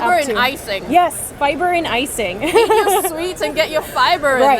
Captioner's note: laughs